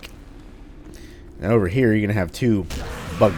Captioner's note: whack